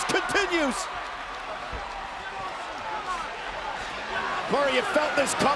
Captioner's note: applause